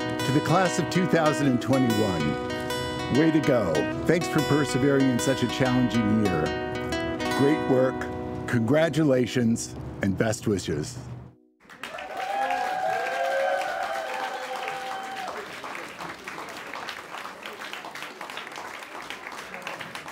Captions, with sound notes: - To the class of 2021, way to go! Thanks for persevering in such a challenging year. Great work. Congratulations and best wishes. (people cheering)